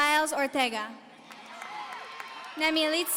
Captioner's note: audience cheering